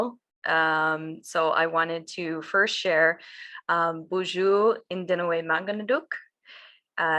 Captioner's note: speaks in foreign language